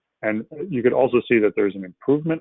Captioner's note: laughs